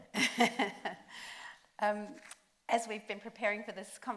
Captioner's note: laughs